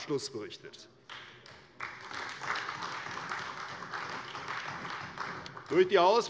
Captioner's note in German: Allgemeiner Beifall